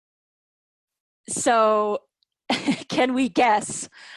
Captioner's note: laughter